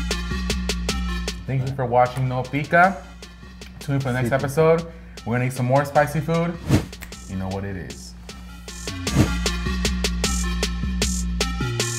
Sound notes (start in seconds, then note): 0.0 techno music; 6.8 finger snap; 9.1 techno music